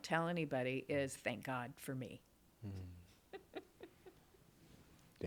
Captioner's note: laughs